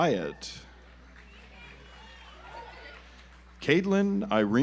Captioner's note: audience applauds